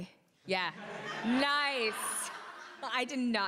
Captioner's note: crowd laughing